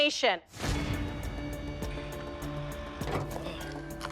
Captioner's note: tense music; items clatter